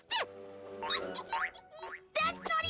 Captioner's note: giggles